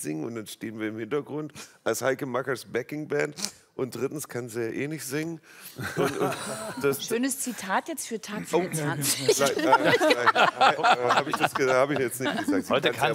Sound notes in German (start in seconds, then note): 8.5 Lachen